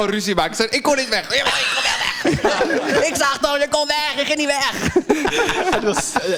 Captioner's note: all laugh